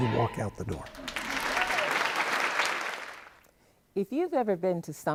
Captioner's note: applause